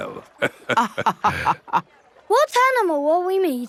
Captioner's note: both laughing